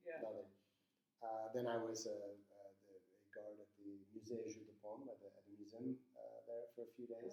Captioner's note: speaking in foreign language